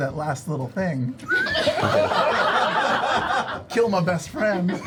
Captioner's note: laughter